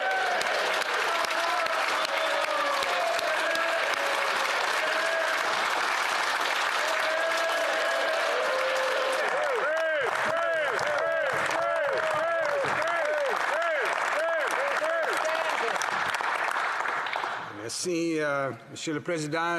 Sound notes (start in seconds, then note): 9.1 cheers; 10.6 applause